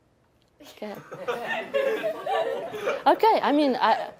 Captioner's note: laughter